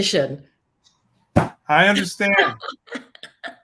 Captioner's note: smacks desk; laughs